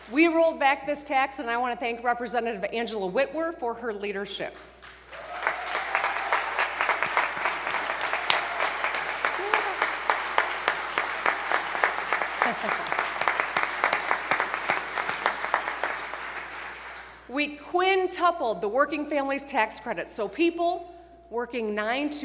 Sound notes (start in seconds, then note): 7.3 applause